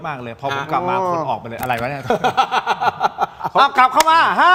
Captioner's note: laughs